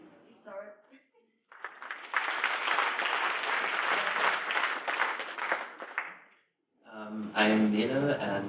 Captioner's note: applause